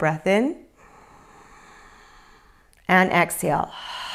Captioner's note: inhales